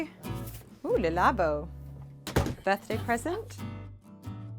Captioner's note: door slams